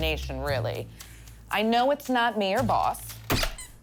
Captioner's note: mallet squeaks